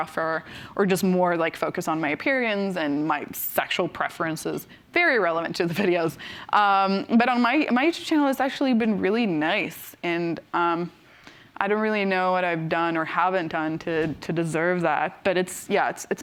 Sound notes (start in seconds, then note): none